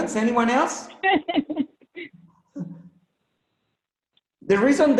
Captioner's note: laughs